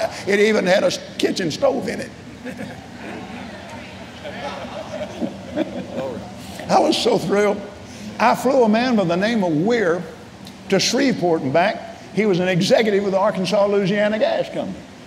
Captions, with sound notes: It even had a kitchen stove in it." (laughing) I was so thrilled. I flew a man by the name of Wier, to Shreveport and back. He was an executive with Arkansas Louisiana Gas Company.